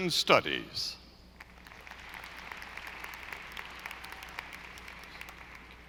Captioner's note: audience applauding